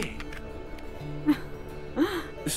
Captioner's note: Ana chuckles